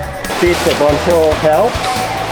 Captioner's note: rain